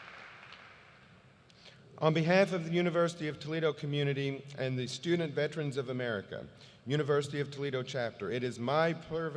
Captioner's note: applause